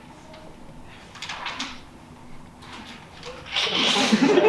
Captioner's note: papers rustling; audience laughs